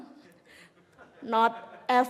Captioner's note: audience laughing